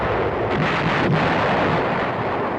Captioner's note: shell exploding